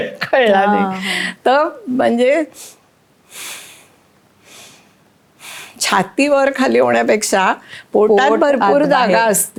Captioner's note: breathing in and out